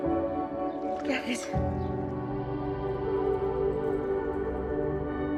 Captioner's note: Noah speaks in Spanish